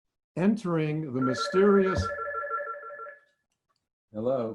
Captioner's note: phone ringing